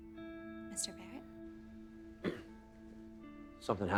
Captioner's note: clears throat awkwardly